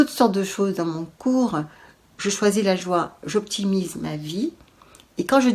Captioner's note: in french